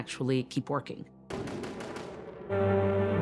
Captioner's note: guns firing; theatrical music